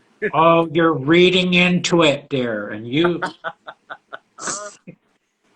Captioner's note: laughing